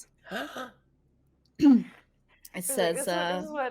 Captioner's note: person gasping